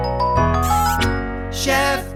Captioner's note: lively music playing; kiss sound